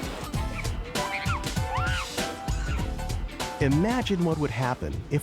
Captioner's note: water splashing; girl screaming